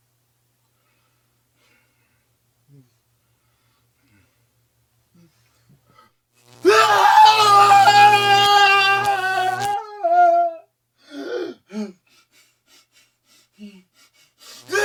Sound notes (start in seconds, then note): 6.5 electric shock and Gerry's pained screams; 11.1 Alex moan and labored breathing; 14.6 electric shock and Gerry's pained screams